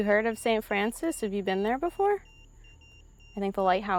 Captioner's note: EMF beeping